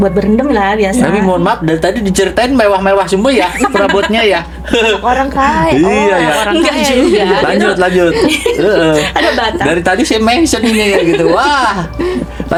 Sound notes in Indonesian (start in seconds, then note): 5.5 tertawa